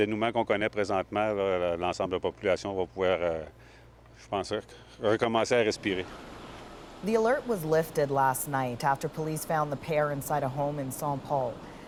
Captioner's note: speaking French